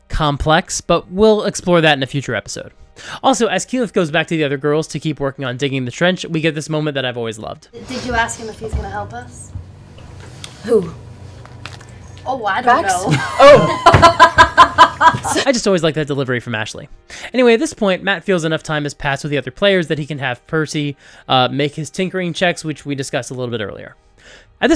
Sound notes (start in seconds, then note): 13.0 laughter